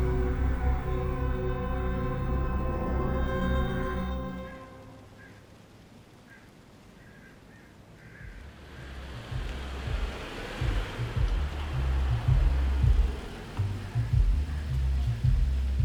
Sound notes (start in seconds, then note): 5.4 crows cawing; 8.3 vehicle humming; 9.4 upbeat music on car radio